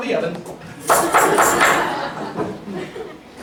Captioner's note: banging the tip jar